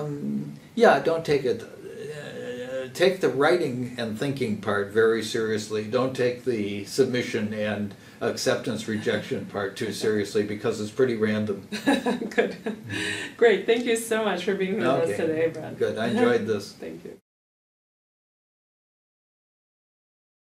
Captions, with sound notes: Yeah, don't take it. Take the writing and thinking part very seriously. Don't take the submission and acceptance rejection part too seriously because it's pretty random. [laugh] Good. Great. Thank you so much for being with us today, Brad. Okay, Good. I enjoyed this. Thank you.